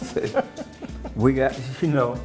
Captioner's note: laughing